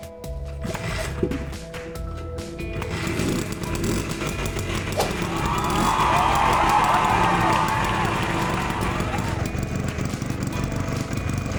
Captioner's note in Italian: Applauso